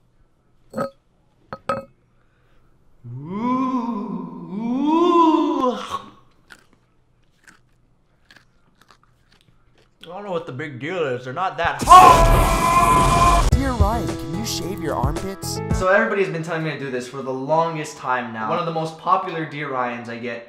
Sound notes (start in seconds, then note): 1.5 "jar" rattles; 6.2 chewing